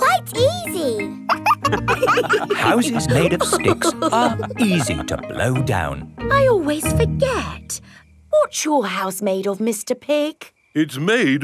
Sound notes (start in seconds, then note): 1.2 wolves laughing